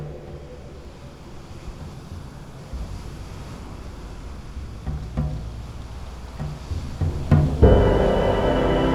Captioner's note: waves crash amidst a deep wind; orchestral music plays